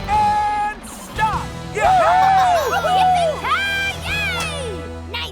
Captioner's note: cheering